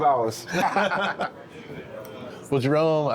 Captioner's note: both laughing